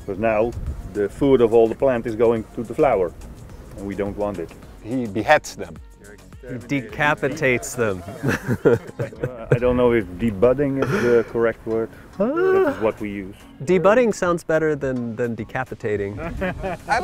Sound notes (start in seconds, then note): 7.2 laughs